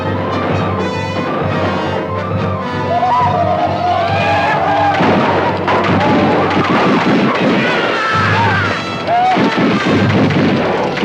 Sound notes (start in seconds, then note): 3.0 Apaches howl; 4.2 guns fire